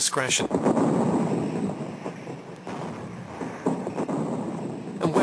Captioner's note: heavy artillery booming